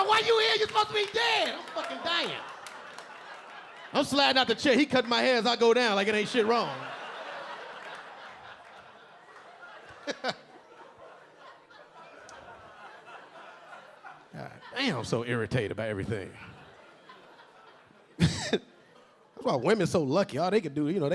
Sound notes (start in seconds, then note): 2.9 audience laughing; 7.0 audience laughing; 10.0 LilRel chuckling; 18.2 LilRel laughing